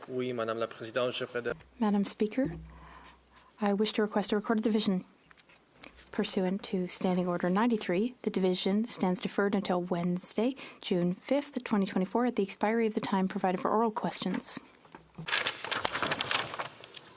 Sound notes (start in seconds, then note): 1.5 speaking French